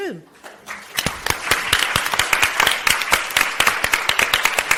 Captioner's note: audience applauds